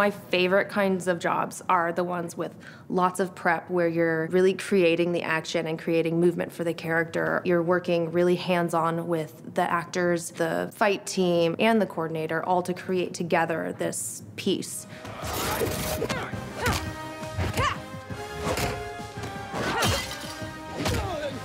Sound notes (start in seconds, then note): 14.8 intense music; 17.3 groaning